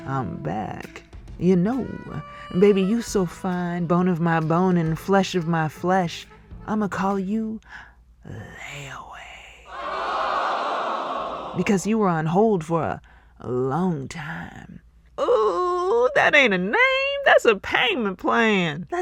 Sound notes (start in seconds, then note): 9.7 ohhhhhh!